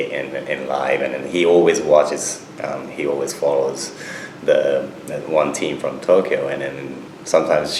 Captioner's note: none